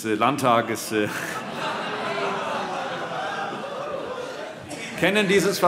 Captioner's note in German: Vereinzelte Heiterkeit CDU, SPD, Freie Demokraten und DIE LINKE